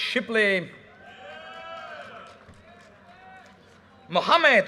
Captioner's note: audience cheers and applause